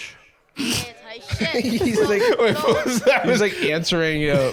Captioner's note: laughing